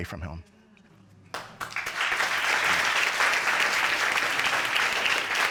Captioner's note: audience applauding